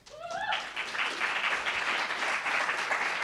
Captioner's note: cheers